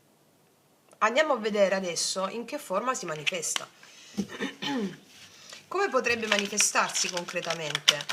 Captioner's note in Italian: schiarire la voce